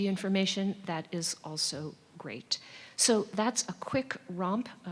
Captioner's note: none